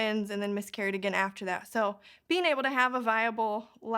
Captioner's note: none